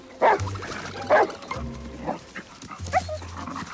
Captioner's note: barking